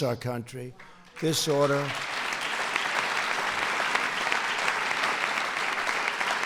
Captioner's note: applause